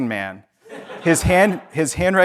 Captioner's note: audience laughs